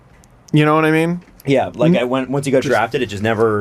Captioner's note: none